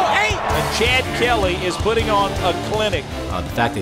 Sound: voiceover

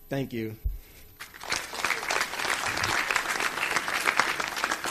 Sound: audience applauds

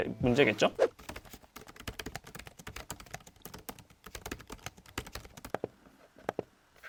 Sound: Omen 16 Keyboard Typing

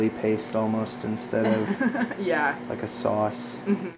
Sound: laughs

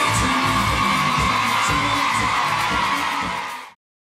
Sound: audience cheers

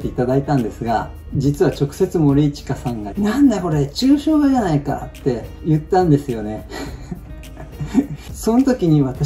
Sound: laughs

